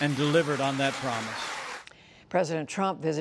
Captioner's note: applause